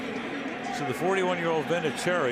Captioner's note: pa announcement